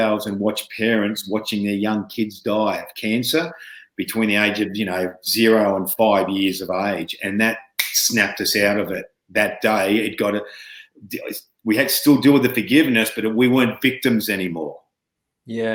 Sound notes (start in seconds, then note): 7.7 snaps fingers